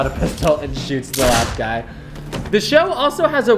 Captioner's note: gun shot